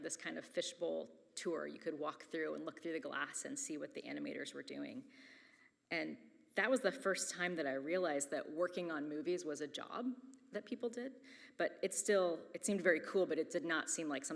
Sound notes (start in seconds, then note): none